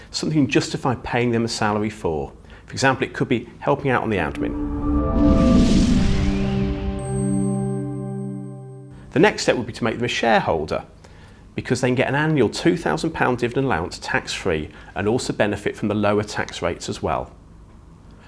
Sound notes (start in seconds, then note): 3.9 graphics whooshing; 3.9 gentle music